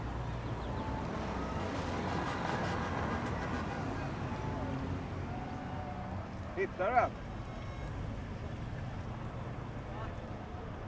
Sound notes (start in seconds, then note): 0.9 bird chirping